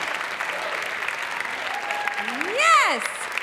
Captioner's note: audience continues to cheer; audience clapping